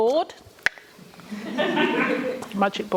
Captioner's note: laughter